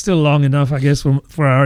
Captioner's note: uh